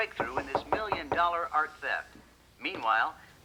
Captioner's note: knock at door